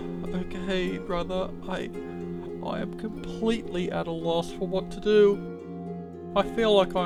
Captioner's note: sighs